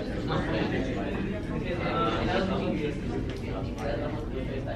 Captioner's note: students murmuring